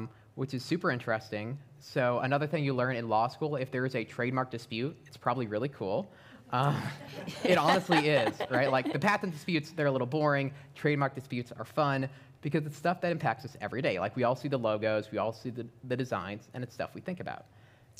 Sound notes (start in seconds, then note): 6.7 laughter